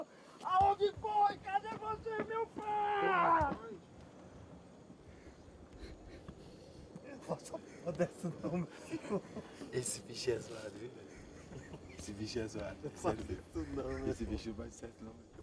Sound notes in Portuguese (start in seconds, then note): 5.5 risada suave; 14.5 risada